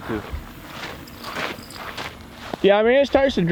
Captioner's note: footsteps plodding